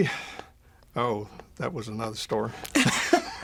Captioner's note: both laugh